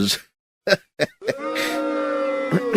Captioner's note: laughs